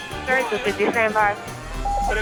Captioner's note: voices on radio